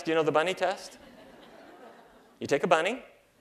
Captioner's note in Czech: Smích